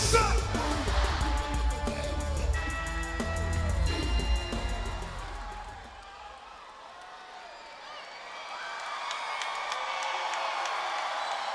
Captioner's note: crowd cheering